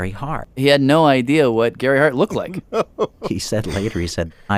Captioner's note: laughs